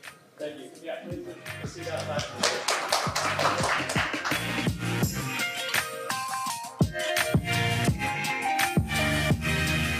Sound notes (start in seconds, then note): 1.8 audience applauding; 4.6 upbeat techno music